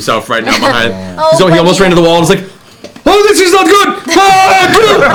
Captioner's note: yells